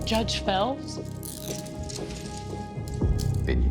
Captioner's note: handcuffs ratcheting